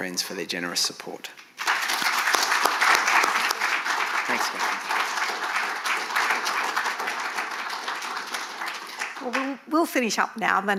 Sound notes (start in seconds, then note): 1.4 audience clapping